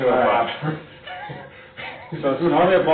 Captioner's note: laughs